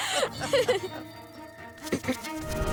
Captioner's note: laughing; clearing throat